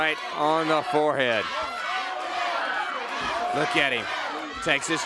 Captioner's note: crowd cheering